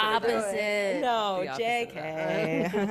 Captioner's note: chuckles